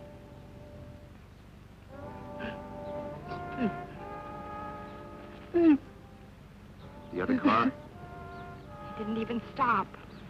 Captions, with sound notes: (gasps) Steve. (sobs) - The other car? - He didn't even stop.